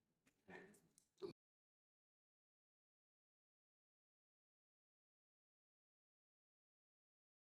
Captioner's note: silence